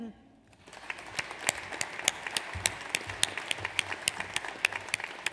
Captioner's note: audience applauds